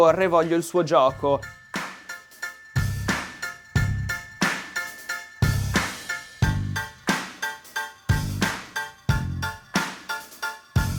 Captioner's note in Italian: Applauso